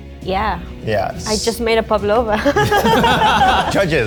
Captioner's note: all laughing; laughs